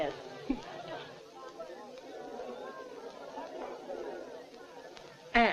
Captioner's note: clamor